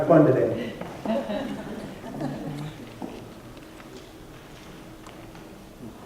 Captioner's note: laughter